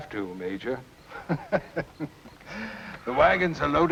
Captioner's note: laughter